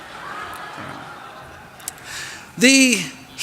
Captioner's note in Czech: Krátký smích